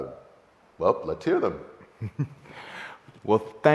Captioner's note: chuckling